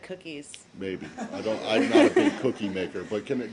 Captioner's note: laughter